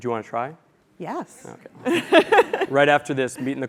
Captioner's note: laugh